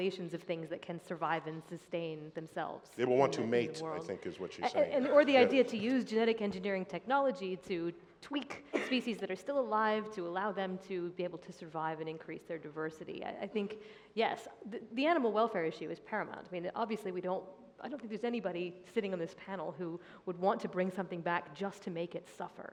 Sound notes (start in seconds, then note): 8.6 cough